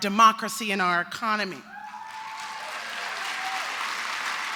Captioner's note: applause